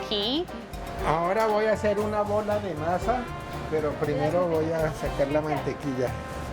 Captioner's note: speaking in Spanish